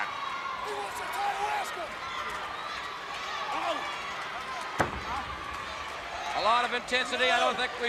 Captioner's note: crowd chatter